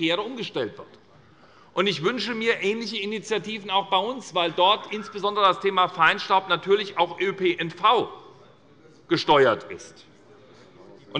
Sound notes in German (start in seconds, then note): none